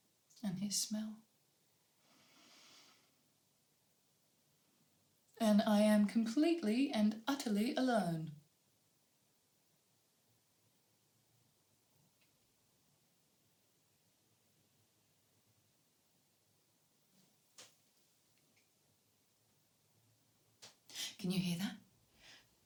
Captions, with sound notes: And his smell. (INHALES DEEPLY) And I am completely and utterly alone. Can you hear that?